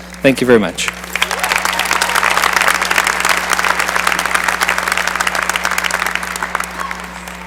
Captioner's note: cheering and applause